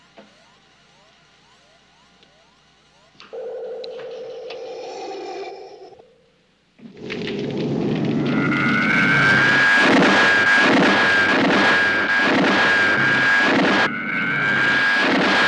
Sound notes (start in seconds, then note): 0.1 beeping; 4.5 whooshing; 6.7 flames crackling; 6.8 zooming